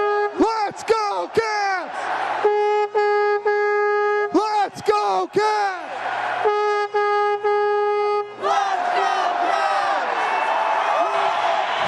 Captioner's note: horn honking